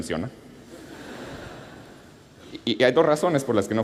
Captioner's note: laughter